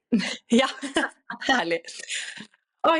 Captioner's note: laughter